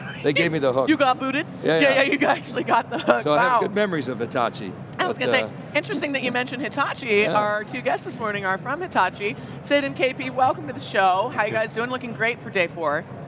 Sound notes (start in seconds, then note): 0.0 laughing; 2.9 laughs; 5.8 laughing